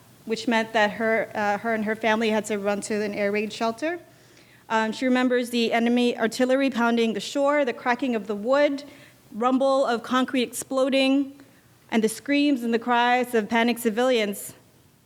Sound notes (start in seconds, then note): none